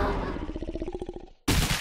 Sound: monster snarling; glass breaking, thunderous booms

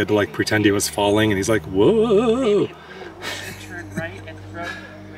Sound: soft laughter

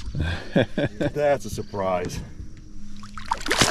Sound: chuckling

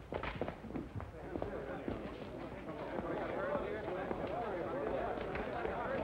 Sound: chatter

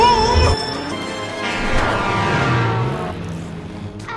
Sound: truck sounds horn

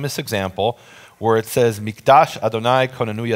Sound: speaking in foreign language

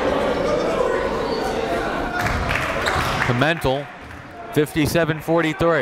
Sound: applauding

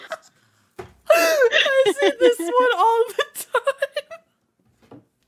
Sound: out of breath laughing

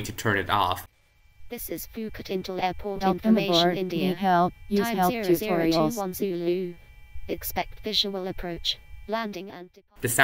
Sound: annoying voice plays

